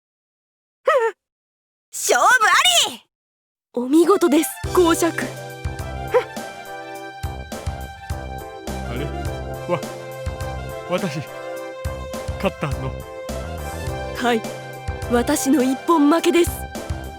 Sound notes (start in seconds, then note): 1.1 whimper